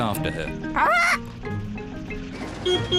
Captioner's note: beeps horn